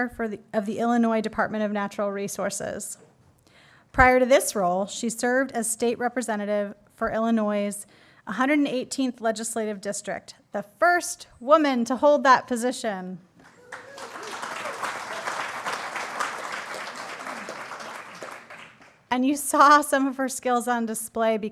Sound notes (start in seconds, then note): 13.4 applause